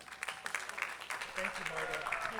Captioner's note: attendees clapping